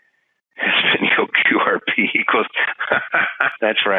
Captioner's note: laughing